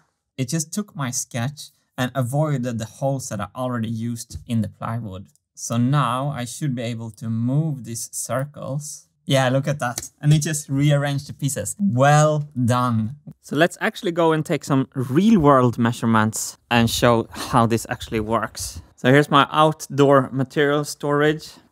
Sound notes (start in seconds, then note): none